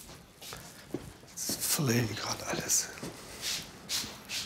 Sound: mumbling

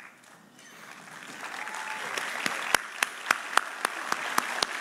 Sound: audience applauding

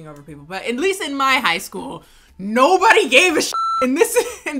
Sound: beep

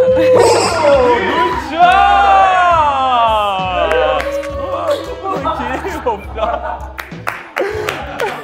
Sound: everyone cheering up

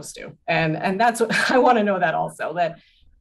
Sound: laughs

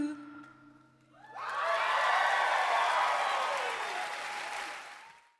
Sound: audience cheers

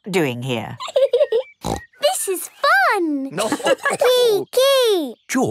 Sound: giggling and snorting; laughter

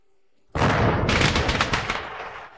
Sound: crackers bursting

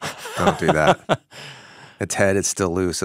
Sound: chuckling

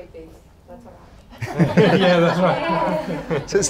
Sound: laughing

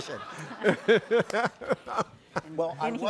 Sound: group laughing

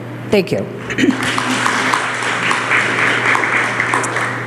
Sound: applause

